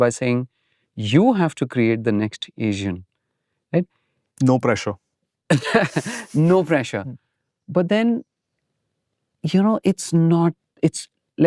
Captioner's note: laughs